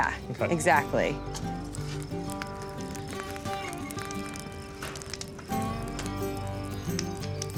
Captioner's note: fire crackling